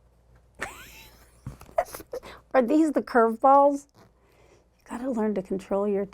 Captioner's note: chuckles